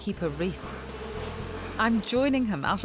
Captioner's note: bees buzzing